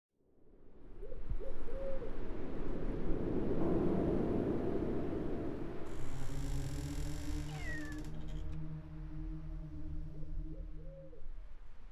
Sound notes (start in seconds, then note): 2.3 wind whooshing; 6.7 ominous ambient music; 7.5 cat meowing